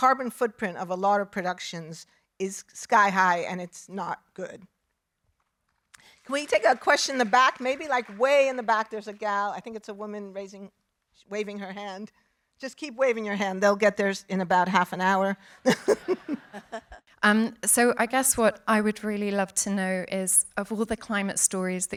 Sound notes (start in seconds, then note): 15.7 laughing